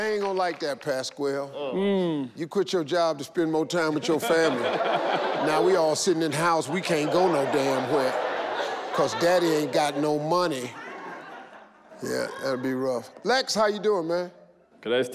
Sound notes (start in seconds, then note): 4.7 all laugh